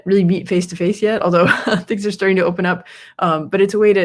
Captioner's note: laughs